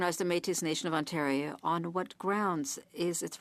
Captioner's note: speaking French